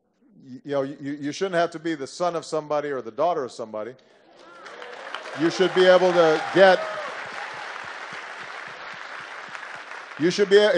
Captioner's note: applause